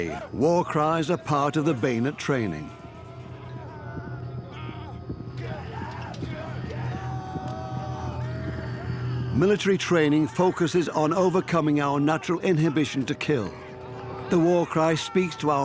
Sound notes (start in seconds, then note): 4.9 soldiers scream; 8.7 screaming